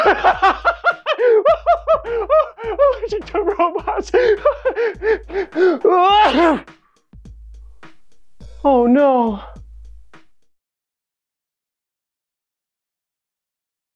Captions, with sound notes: (Laughing) Allergic to Robots (Laughing) (Sneeze) Oh No....